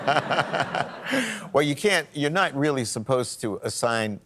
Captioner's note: laughs